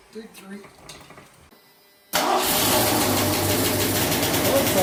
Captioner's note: engine